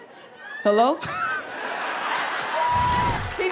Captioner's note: laughter